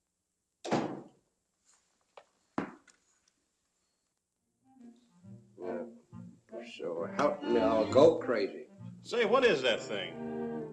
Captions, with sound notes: [ DOOR THUDS ] Yeah, so hop now and go crazy. Say, what is that thing?